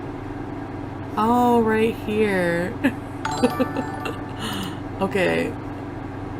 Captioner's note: laughing